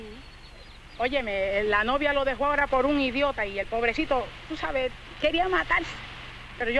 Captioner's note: speaking in Spanish